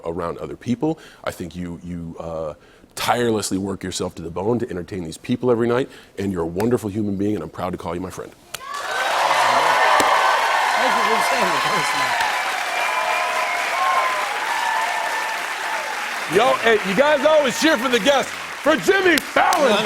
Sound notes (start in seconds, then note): 8.1 cheers and applause; 11.1 cheers and applause continues